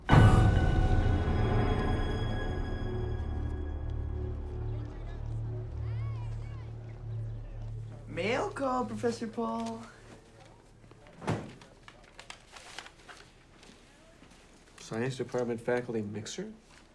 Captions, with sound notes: (loud menacing music) (students chattering) - Mail call, Professor Paul. - Science department faculty mixer?